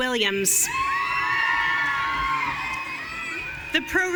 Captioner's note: audience cheering